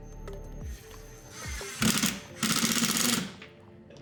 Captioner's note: upbeat music; drill whirring